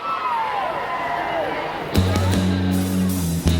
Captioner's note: crowd cheering; rock music